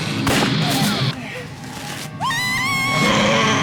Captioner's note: screams; growls